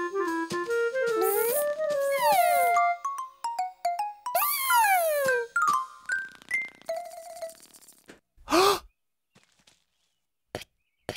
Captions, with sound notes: BUZZ. HMMM. BUZZZZZZ. [ Gasp ] [ Spitting ]